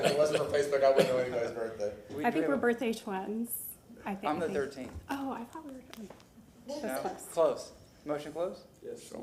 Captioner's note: laughter